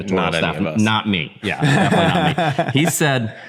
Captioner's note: laughter